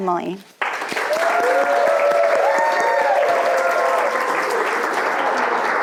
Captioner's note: audience cheering and applauding